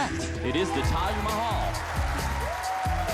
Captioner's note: cheers and applause